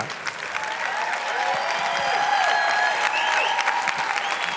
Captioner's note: applause